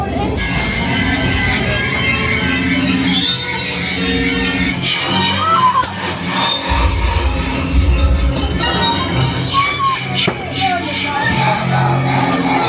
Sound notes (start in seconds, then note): 0.1 spooky music; 5.2 screaming; 5.2 spooky music